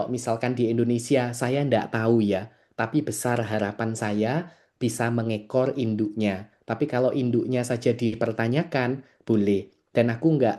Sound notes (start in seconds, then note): none